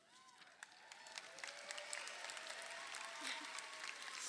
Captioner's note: crowd applauding